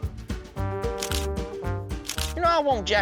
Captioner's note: camera flash clicking